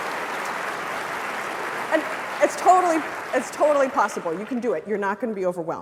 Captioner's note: applause